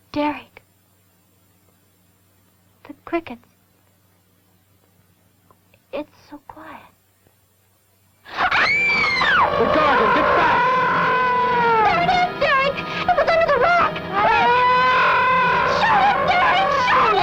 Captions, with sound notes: Derek. The crickets. It's so quiet. [ BETTY SCREAMS ] The Gargon, get back! There it is, Derek! It was under the rock, quick! [ GARGON WAILS ] Shoot it, Derek, shoot it!